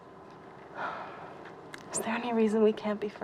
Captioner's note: sighs